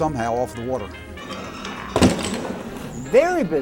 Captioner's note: bushel basket slamming on dock